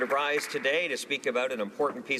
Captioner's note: some applause